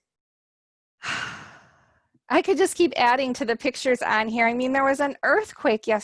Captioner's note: exhales